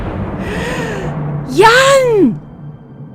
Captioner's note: gasps